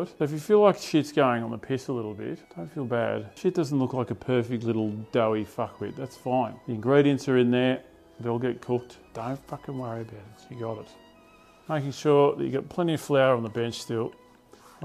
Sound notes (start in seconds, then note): none